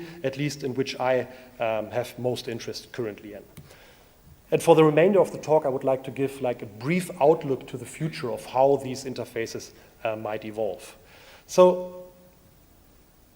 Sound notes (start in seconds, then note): none